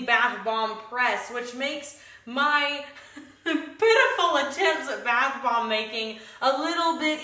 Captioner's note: laughs